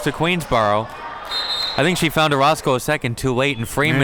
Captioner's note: whistle blows